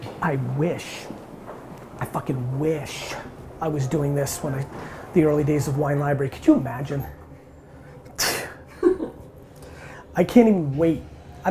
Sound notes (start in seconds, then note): 8.2 sighs; 8.7 laughs